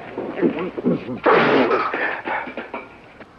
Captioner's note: spits